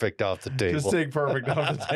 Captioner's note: laughter